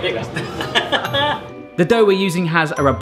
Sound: laughing

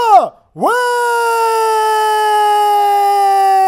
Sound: cheering

